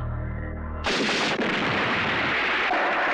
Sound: explosion

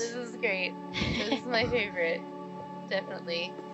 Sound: laughing

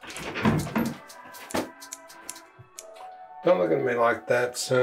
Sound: scissors snipping

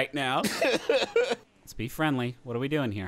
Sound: laughing

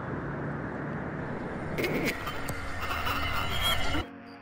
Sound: glitch and static

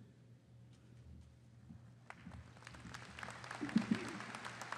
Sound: audience applauding

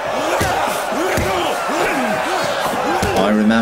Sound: crowd yells; fighters groans

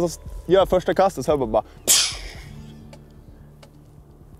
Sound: hissing sound

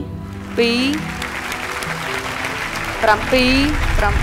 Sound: applause

